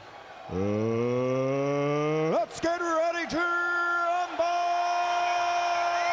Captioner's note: crowd clamoring